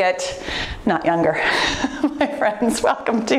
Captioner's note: soft laughter